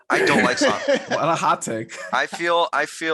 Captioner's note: laughing